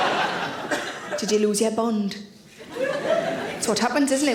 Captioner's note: audience laughing; audience laughing